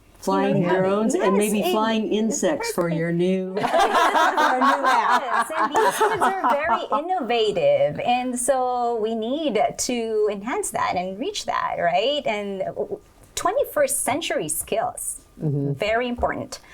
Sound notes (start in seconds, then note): 3.6 laughing